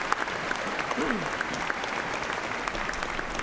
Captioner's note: applause